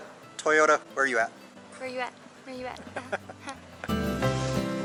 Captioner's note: laughter